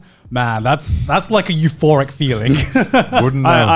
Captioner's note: laughs